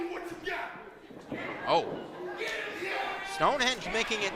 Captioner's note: crowd reacts